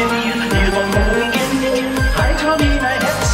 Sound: "glickt" echos

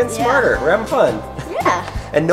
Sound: laughs

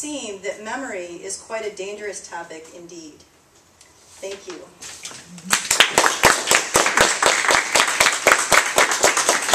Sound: applause

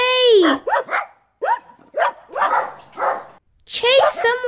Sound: barking

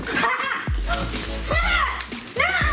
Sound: gasping; laughing

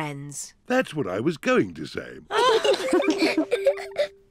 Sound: all giggle

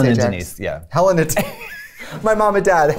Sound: laughter

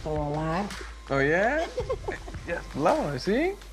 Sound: laughs

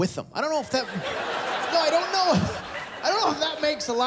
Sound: laughter

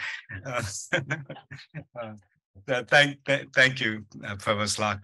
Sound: laughter

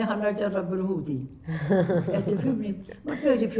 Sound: chuckles

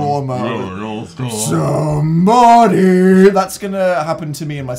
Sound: Dan in a deep voice

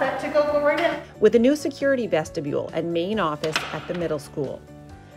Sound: door clicks

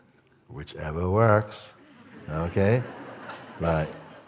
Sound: laughter

